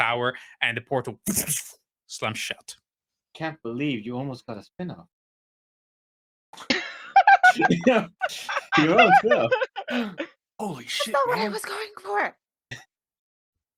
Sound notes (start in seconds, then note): 6.7 laughing